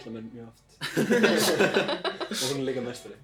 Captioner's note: hahah